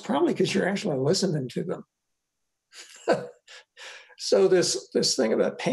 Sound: laughs

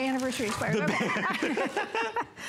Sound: laughter

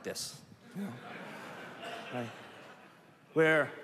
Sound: laughter

